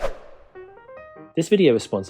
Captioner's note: whoosh